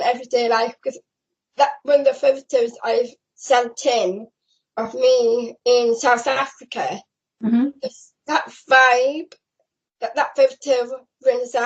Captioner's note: mhmm